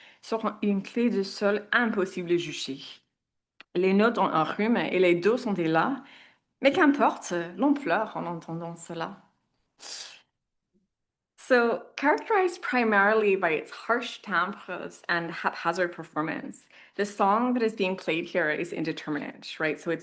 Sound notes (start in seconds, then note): 3.9 speaks in French